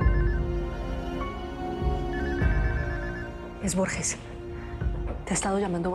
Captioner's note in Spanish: Suena un celular